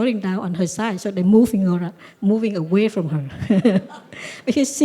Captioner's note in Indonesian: Suara tertawa